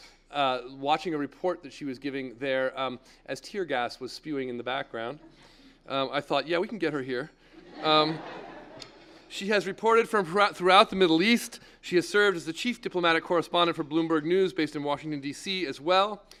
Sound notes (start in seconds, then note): 7.6 laugh